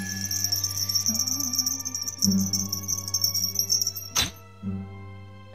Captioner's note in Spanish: sonido de campanas chiquitas